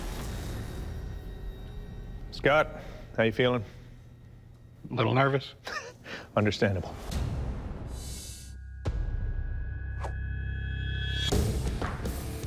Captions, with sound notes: Scott, how you feeling? -A little nervous. -[laughs] Understandable. [rock music playing]